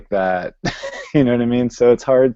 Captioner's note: laughs